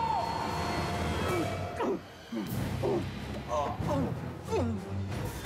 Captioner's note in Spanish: quejidos